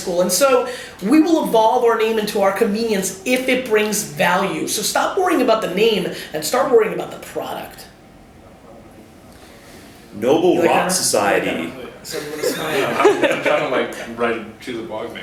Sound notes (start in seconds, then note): 10.3 voiceover; 12.1 background murmuring